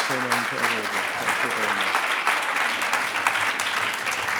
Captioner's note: audience applauds; speech drowned out by applause